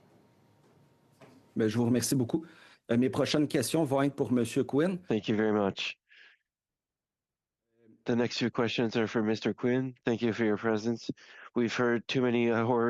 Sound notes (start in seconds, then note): 4.2 speaking in French